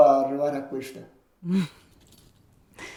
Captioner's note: he laughs